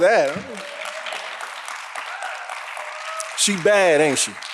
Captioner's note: audience applauding